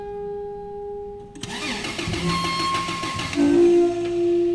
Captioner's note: car engine starts